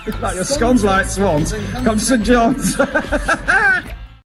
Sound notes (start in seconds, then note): 2.3 laughter